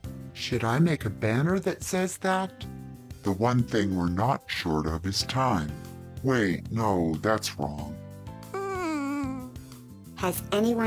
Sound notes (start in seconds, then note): 8.5 whimper